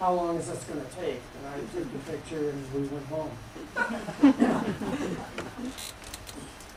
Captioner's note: laughter